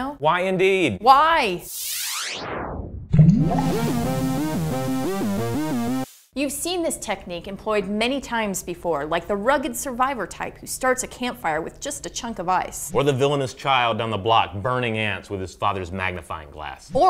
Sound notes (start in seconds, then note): 1.7 laser sound; 4.2 synthesizer music